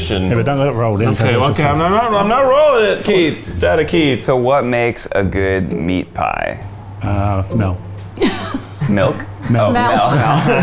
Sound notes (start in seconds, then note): 8.2 laughing